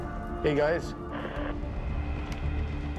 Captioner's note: walkie hisses